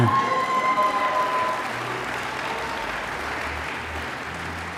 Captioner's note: audience applause